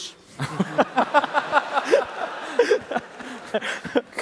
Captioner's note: laughs